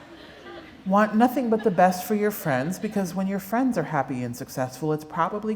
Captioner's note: laughter